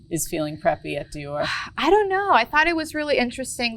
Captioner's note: sighs